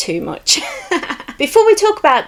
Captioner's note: giggles